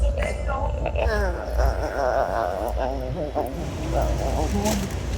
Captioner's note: groaning